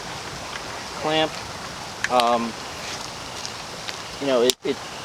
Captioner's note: wind whirring